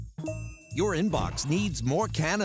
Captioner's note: notification chimes